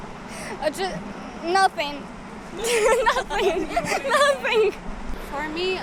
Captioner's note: laughs